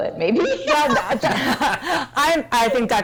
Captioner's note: laughter